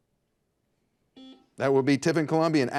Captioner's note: buzzer buzzes